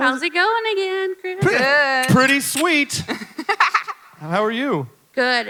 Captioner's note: laughs